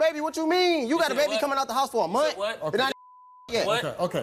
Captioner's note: beep